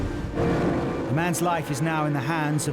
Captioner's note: engine revving